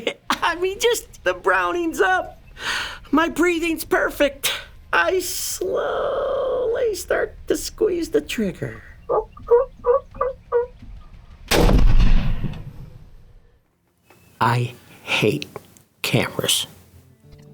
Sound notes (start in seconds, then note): 8.6 turkey calling; 11.4 gunshot